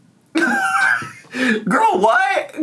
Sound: laughs

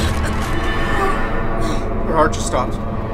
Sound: grunting

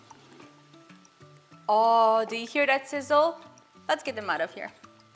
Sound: sizzling

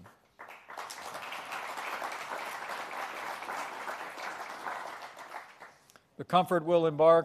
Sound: applause

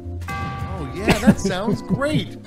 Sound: laff

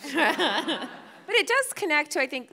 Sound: audience laughing

